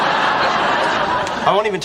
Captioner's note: laugh Track